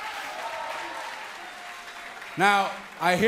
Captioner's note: cheers & applause